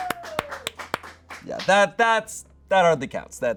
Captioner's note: audience applauding